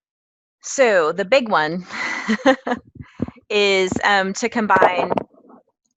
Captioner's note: laugh